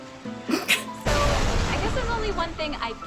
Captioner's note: explosion